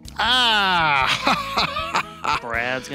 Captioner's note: laughing